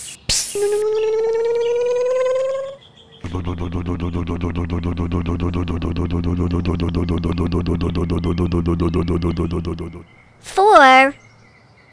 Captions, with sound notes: [ hiss ] [ electric motor hum ] [ engine rumble ] Timmy Uppet> four